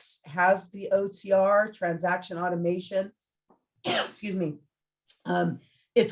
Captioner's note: coughs